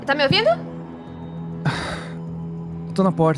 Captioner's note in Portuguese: suspiro